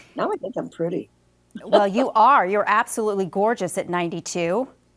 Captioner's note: laughs